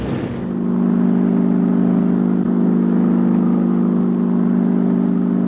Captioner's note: engine whirring